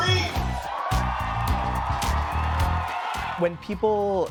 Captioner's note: audience cheering